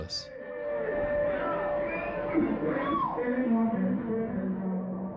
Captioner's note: people chattering